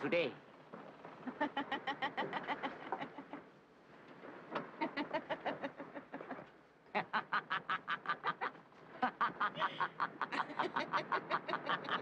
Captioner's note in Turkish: Gülüşmeler